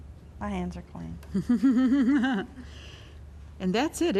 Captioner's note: laughter